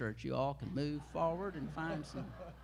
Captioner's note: laughter